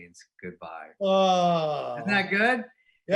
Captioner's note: groaning